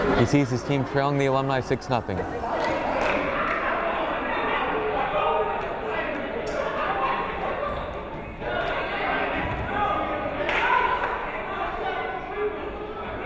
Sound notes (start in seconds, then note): 2.4 crowd chattering